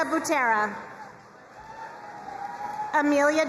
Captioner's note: crowd cheering and applauding